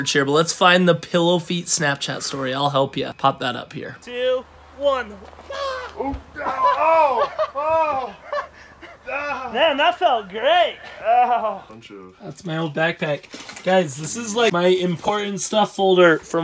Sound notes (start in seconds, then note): 5.4 yelps; 6.9 grunts; 8.3 laughs